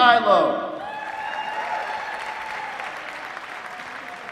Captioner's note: applause